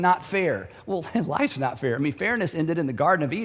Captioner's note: chuckles